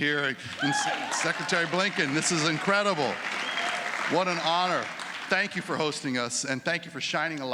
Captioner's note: applause